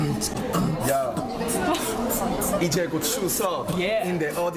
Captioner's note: beatboxes